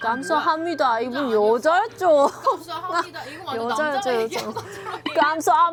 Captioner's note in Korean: 웃음